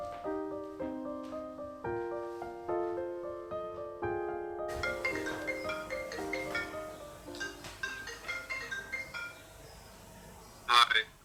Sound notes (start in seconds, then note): 4.7 phone ringing; 10.4 hugo, on phone